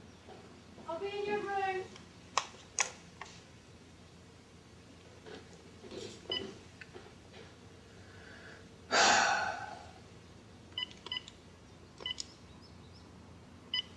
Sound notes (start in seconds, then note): 8.9 sighs; 10.9 phone beeping